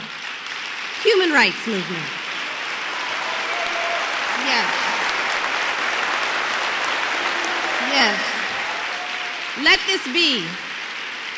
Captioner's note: applause